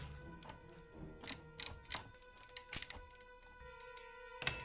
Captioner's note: dial clicking